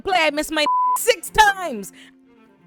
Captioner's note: beep